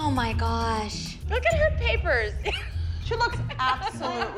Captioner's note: laughing